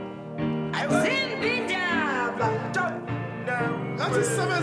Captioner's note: non-english speech